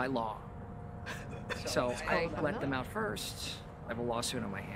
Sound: laughs

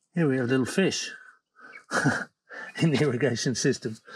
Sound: chuckles

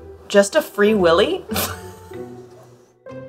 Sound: laughs; instrumental background music

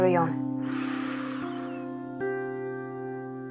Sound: breathing; inspiring music

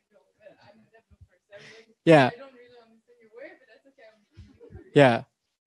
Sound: laughing; audience chattering

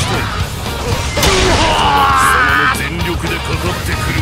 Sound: KO Scream

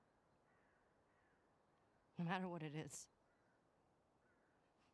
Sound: none

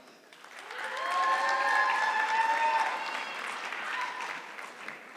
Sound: audience clapping

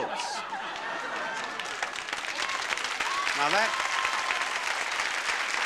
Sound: audience applauds

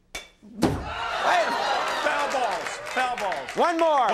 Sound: audience clapping

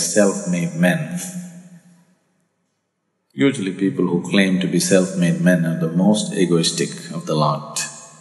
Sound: laughs

